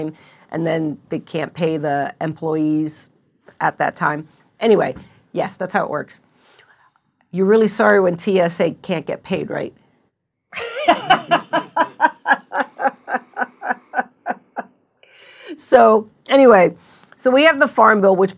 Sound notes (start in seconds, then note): 10.6 laughing